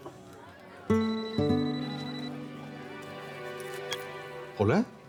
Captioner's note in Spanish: Suena el celular